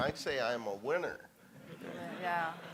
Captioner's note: audience laughing